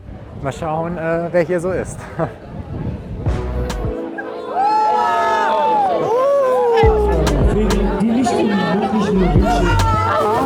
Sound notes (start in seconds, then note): 2.1 laughter; 4.4 cheers